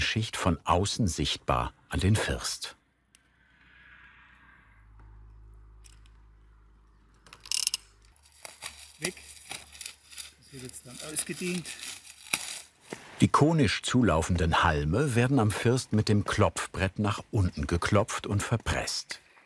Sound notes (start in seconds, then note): 7.2 rotating sound; 11.7 rustling